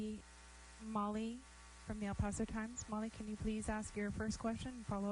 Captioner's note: speaking spanish